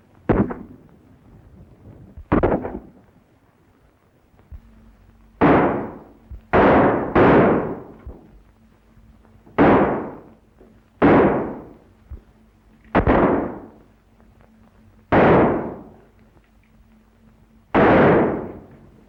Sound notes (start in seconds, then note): 0.3 gunshot; 2.2 gunshot; 6.5 gunshots